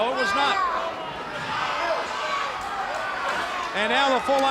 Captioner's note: crowd cheering